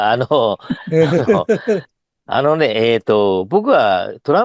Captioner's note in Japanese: 笑い